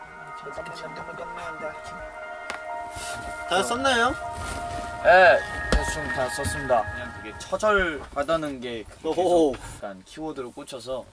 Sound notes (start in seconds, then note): 2.5 crack